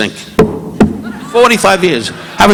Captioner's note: mic thudding